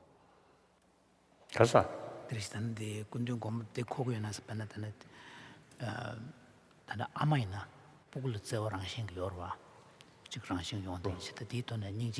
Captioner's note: foreign Language